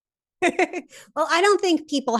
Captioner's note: laughs